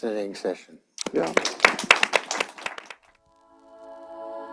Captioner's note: applause